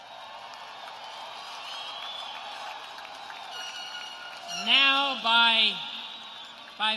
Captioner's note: cheers and applause